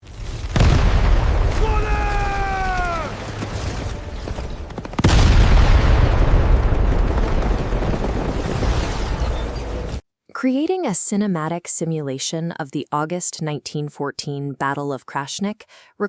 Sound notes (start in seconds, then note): 0.0 gunshots; 1.5 screaming; 4.0 gunshots